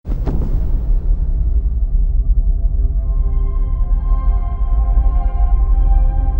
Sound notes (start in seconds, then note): 0.0 thunder rumbling; 3.8 gentle music